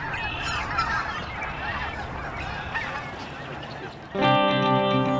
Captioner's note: birds calling